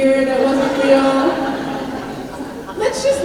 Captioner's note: laughter